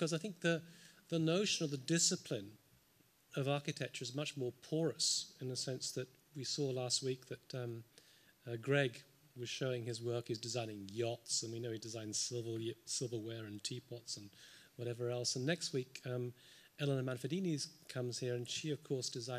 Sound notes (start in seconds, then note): none